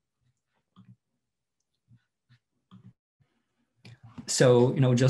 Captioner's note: mouse clicks